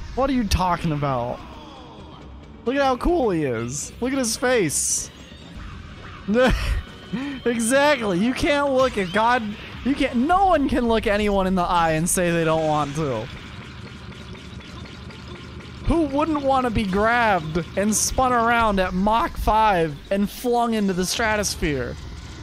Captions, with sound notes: What are you talking about? Look at how cool he is. Look at his face *laugh* Exactly you can look at god- You can't- no once can look anyone in the eye and say they don't want to Who wouldn't want to be grabbed and spun around at mock 5 and flung into the stratosphere